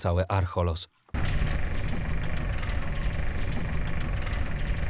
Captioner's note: sound of a grate sliding open